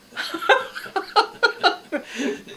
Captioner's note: laughs